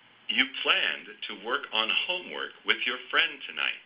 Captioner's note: male Voice